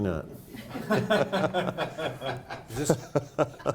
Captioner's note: laughing